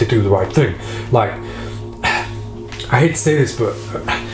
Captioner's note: sighs